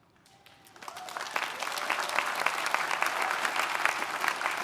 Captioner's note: audience applauding